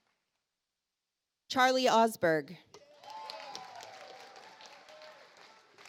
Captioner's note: audience applauds